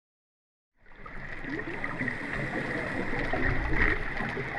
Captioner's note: water running